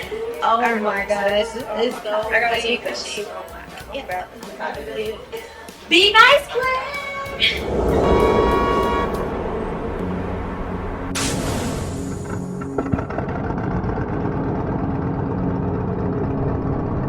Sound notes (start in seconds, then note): 7.2 horn honking; 11.4 elevator hissing and grumbling